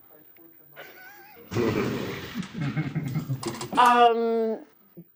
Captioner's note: laughter